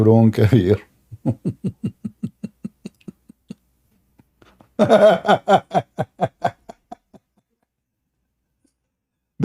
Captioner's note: Ketawa